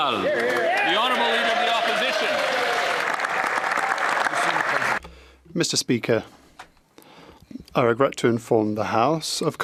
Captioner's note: applause